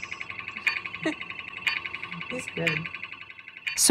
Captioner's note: chuckles